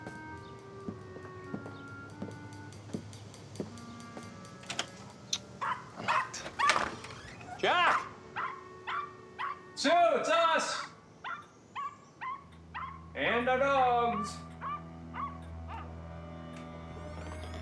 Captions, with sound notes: (somber music) (door clicking) (dog barking) Jack! (dog barking) Sue, it's us! (dog barking) And our dogs! (mysterious music)